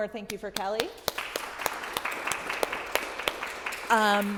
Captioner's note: audience clapping